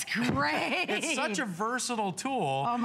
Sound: laughter

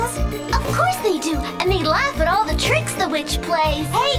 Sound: none

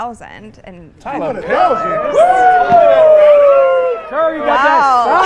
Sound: crowd chattering

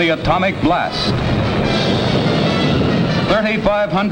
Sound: bomb blasting

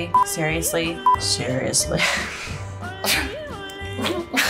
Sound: laughs

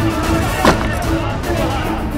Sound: shouting

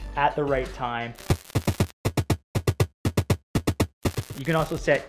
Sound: upbeat drum music; static crackling

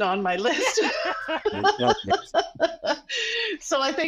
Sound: laughs

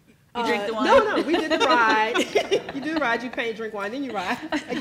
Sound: laughs; laugh

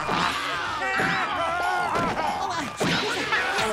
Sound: screaming

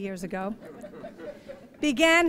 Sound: laughing

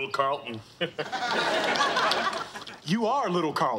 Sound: audience laughing

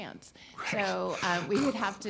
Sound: laughs

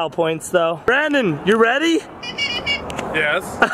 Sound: squeaker horn honking

